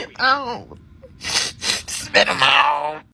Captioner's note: sniffle sniffle; strained